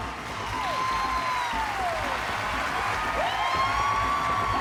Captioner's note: cheering and applause